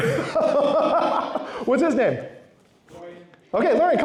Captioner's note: laughs